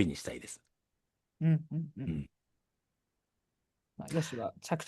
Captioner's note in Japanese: 咳払い